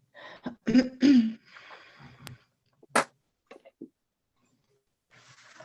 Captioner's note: clearing throat